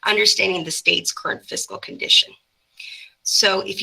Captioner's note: none